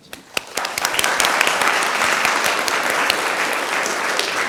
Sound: audience claps

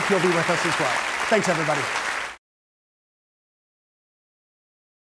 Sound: audience applauding

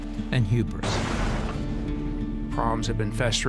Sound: explosion roaring

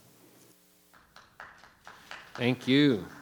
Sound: audience applauding

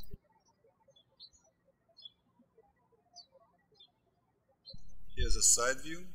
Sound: birds chirping

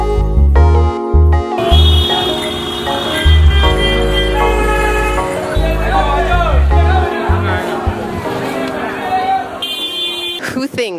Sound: street noises

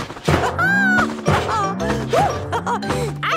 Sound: laughs

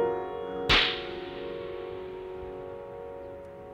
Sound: sentimental piano music; slapping

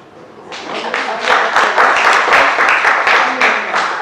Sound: applause

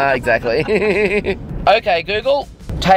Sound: laughs

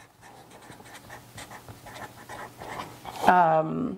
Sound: pen scribbling

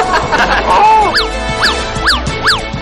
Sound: laughter; non-musical sound effects

